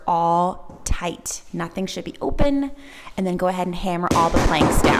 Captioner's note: hammer pounding